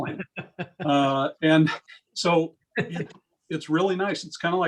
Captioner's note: laugh